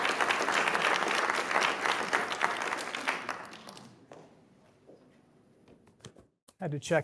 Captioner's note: applause